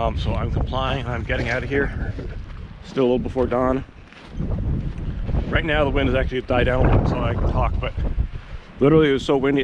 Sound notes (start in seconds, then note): 4.3 wind whooshes